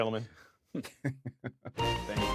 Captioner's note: laughter